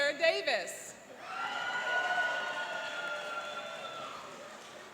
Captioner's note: cheering and applauding